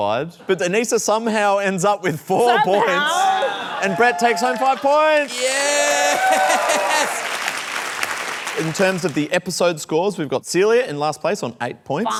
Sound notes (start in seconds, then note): 7.2 cheering and applause